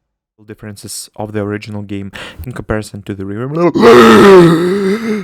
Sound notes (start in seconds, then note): 2.1 takes breath